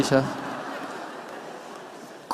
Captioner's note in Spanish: Risas